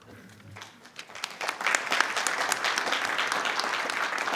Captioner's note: audience applauding